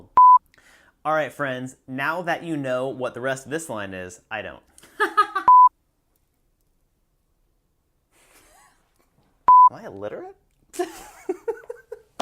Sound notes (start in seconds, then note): 0.1 beep; 5.0 laughs; 5.4 beep; 9.5 beep; 10.8 laughs